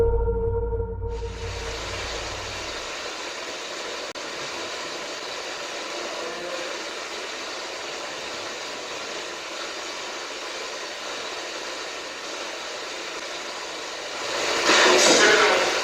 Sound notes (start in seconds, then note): 2.4 ghost box buzzing